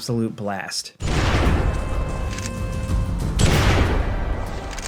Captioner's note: gun blasting